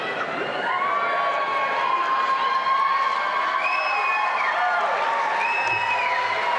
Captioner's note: cheering